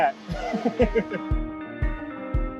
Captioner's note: laughing; gentle upbeat music